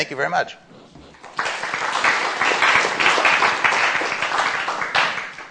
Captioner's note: applause